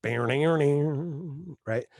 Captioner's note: vocal imitation of guitar riff